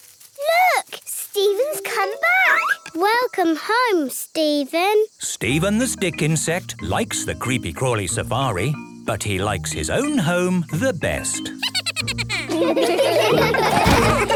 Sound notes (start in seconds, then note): 11.5 Steven giggles